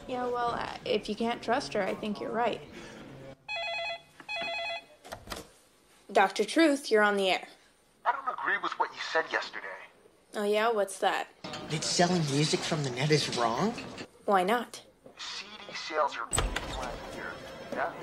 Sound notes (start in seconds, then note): 3.4 phone rings